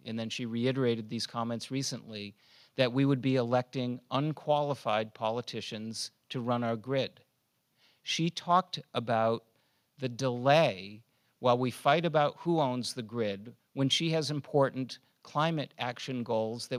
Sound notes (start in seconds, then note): none